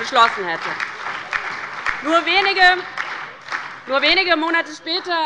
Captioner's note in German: Beifall bei der LINKEN und bei dem BÜNDNIS 90/DIE GRÜNEN